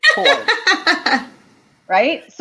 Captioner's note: laughter